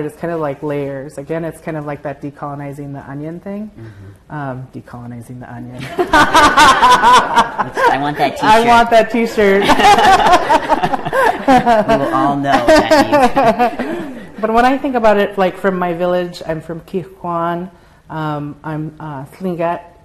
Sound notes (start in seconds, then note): 9.4 laughter